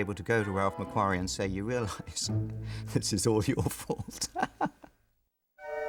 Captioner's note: laughs